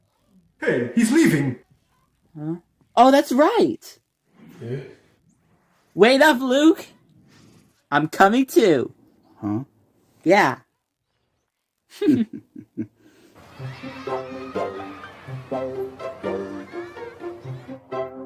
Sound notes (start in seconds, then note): 4.4 whisper sighs; 11.9 both giggle